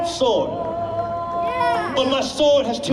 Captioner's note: person yells